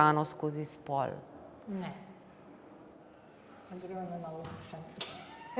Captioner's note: laughter